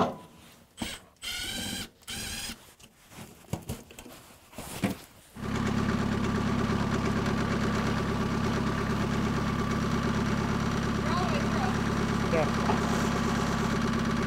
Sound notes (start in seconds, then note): 5.7 engine